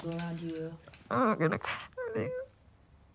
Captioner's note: sobs